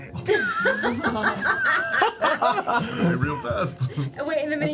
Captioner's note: laughter